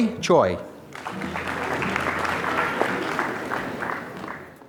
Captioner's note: applause